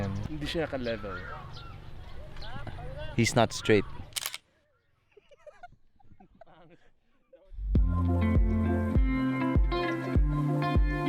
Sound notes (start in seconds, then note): 5.0 giggling